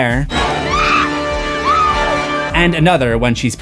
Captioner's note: screams